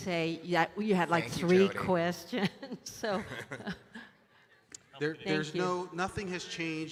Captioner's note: chuckles